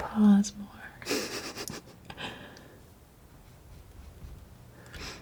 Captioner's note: scratching